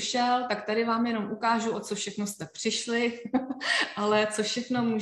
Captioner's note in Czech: smích